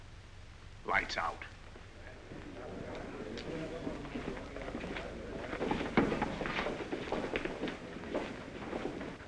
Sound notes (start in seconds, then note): 1.9 disgruntled murmuring